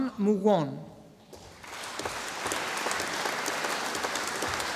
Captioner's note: audience applauding